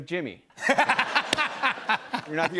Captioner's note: laughter